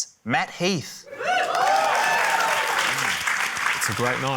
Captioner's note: cheering, applause